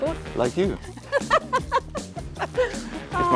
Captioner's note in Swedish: skrattar